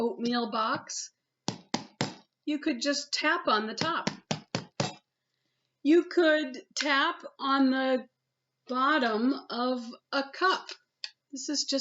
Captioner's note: tap tap tap; tap tap tap tap tap